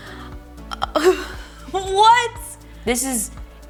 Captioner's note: laughs